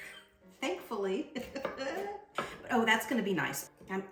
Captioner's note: laughs